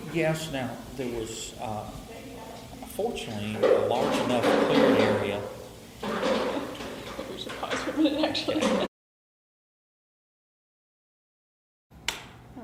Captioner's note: water running